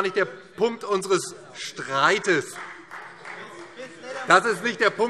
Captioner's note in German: Beifall